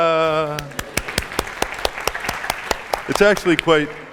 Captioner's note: applause